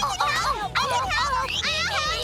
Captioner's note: crowd